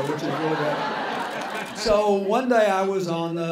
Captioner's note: laughter